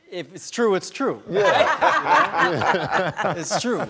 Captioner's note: laughs